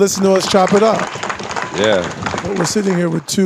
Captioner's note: audience clapping and cheering